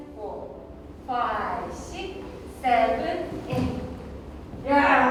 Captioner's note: in English